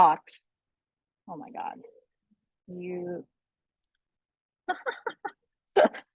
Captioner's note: laughs